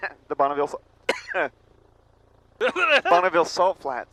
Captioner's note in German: verspottet Husten